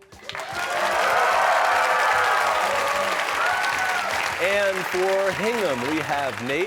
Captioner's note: cheers and applause